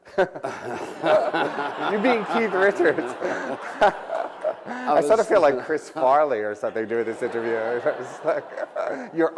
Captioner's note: laughter; laughter/applause